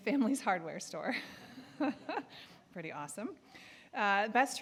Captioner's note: chuckling